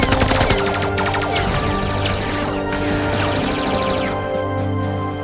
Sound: gunfire, rapid gunfire; gunfire

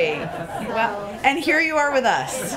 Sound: laughter

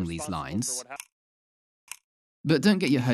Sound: ticking

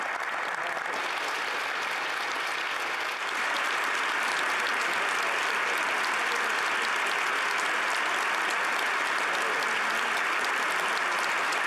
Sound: applause

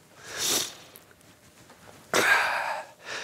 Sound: unzipping pants

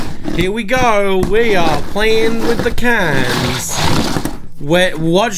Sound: cans grinding on table

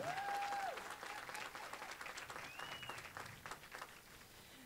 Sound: applause

